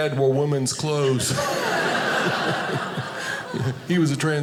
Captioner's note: audience laughing